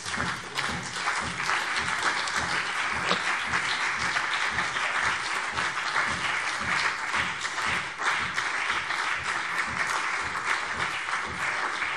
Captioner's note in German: Beifall CDU und BÜNDNIS 90/DIE GRÜNEN